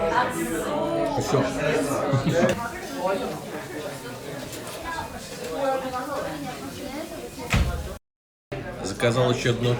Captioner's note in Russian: гомон голосов